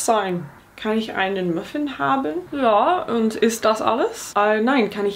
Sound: speaking in foreign language

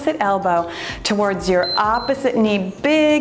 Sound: timer beeps

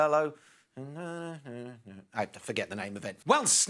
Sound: hums

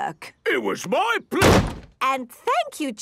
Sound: slams

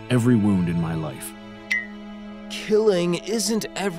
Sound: blink pinging

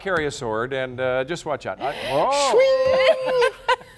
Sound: laughter

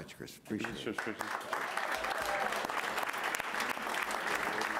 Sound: applause

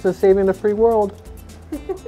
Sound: giggling

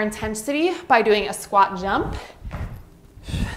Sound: exhales

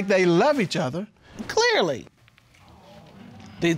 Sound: audience exclaiming

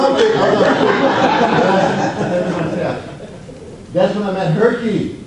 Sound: audience laughs

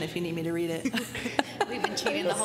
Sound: laughter

